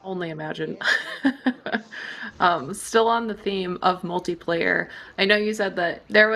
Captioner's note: laughs